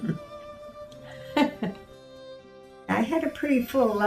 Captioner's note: laughs